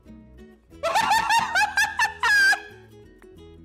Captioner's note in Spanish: ríete